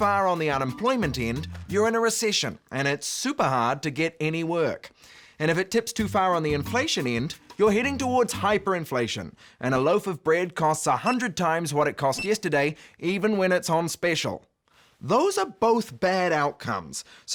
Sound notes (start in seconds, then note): none